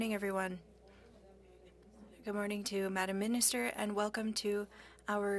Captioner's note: speaking French